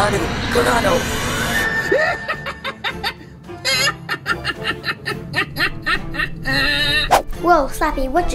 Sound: laughing

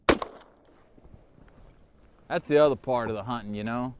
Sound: gunshot

